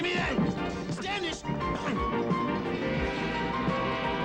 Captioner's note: train whistle